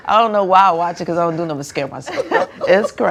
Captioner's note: laughter